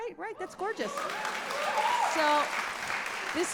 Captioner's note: audience cheering